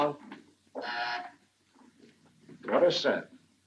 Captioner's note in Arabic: طنين الباب